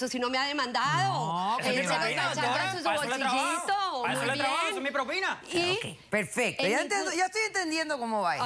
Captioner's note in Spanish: Hablan al unísono